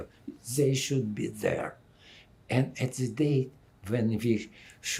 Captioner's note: none